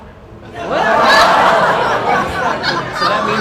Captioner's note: laughter